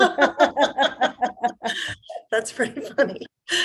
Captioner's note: laughing